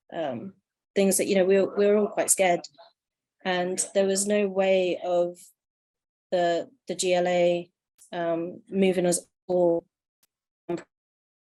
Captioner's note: audio glitching